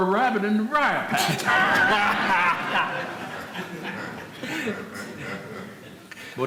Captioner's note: people laughing